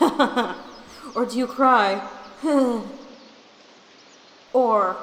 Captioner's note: crying sounds